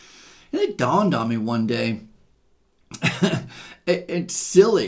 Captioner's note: chuckles